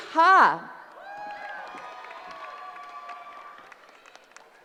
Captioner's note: cheering